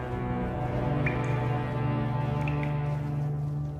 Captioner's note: water dripping